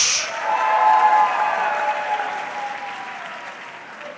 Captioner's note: audience cheering